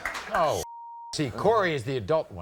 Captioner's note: beep